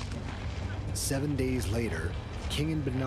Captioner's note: voiceover